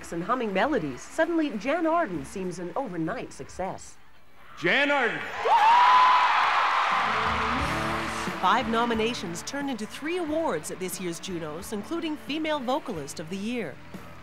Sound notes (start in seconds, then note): 8.1 audience cheering